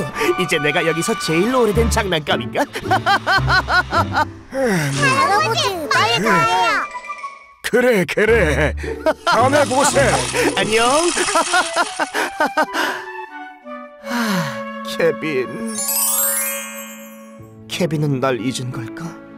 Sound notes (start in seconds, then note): 2.6 laughing; 4.4 sighs; 8.9 laughing; 14.0 sighs